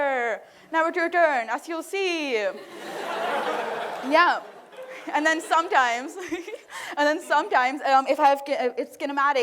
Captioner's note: laughter